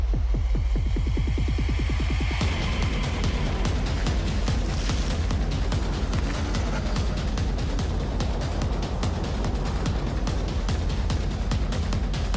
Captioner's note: crowd chatter